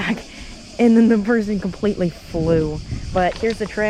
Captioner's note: laughing